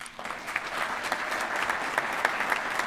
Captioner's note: applause